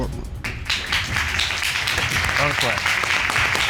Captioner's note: all applauding